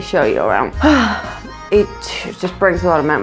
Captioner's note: sigh